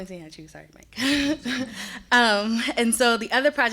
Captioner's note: chuckling